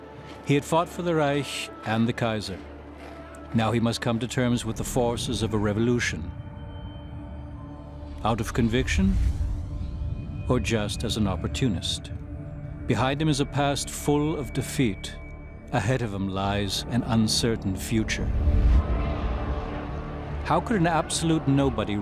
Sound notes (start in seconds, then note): 18.4 crowd cheering faintly